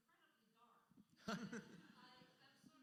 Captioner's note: laughs